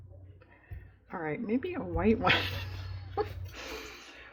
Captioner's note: laughs